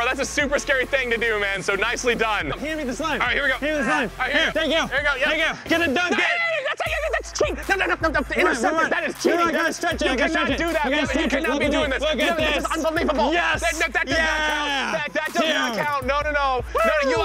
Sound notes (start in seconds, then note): 6.0 screaming